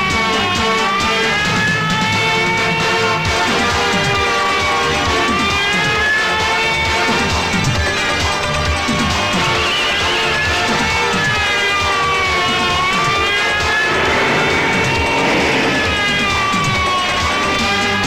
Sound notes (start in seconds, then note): 9.4 tires squealing; 10.9 police siren blares